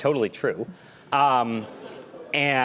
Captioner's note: laughter